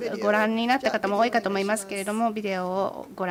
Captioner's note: speaking japanese